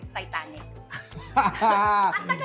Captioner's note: chuckles